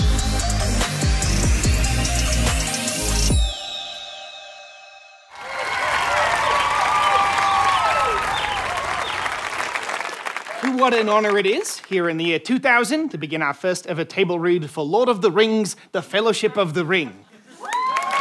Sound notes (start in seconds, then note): 5.3 audience cheering